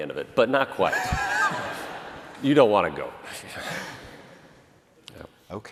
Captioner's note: laughter